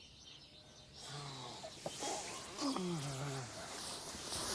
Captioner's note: birds chirping